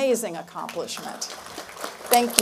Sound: applause

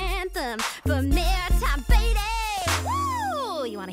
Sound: sing-songy

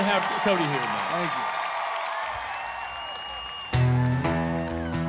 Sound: cheers

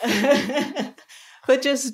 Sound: laughing

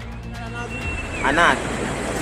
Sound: whistling; locals speaking Portuguese

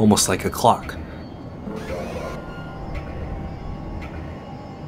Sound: clock ticking

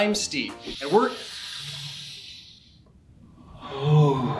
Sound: sniff

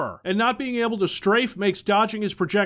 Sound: none

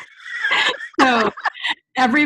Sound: laughter

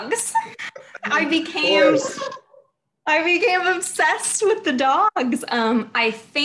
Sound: laughs

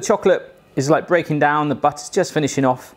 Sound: Steve Irwin voice

